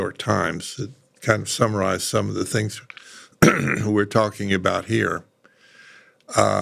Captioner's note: cough